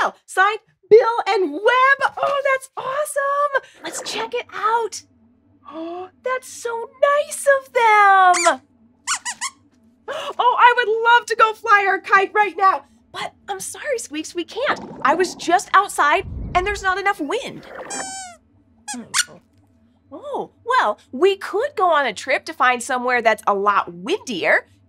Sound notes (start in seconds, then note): 10.3 squeaks squeaks; 20.1 squeaks squeaks